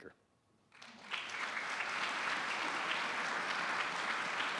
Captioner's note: applause